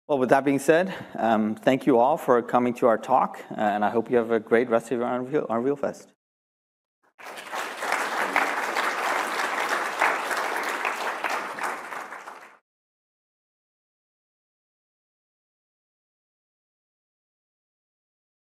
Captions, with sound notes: Well, with that being said, thank you all for coming to our talk, and I hope you have a great rest of your Unreal Fest. [APPLAUSE]